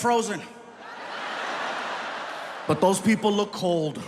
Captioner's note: audience laughing